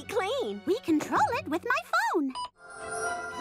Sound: beeps

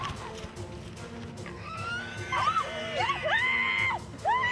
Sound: screaming

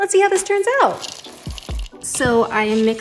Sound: chocolate chips bounce off bowl

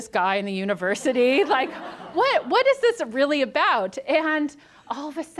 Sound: audience laughs

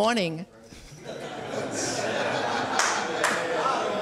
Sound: audience laughing

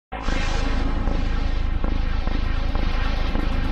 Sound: deep digital heartbeat

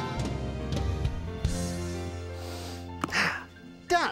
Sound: takes deep breath

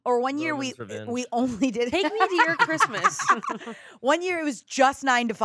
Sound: laughs

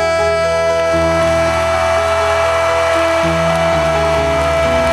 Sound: applause

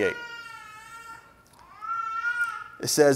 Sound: baby cries

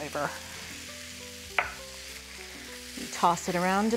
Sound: sizzling

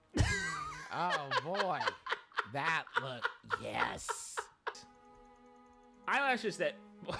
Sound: laughter; laughter

